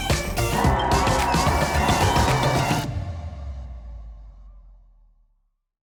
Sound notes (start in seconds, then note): 0.4 group cheering